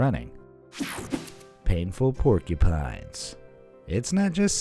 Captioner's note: air whooshing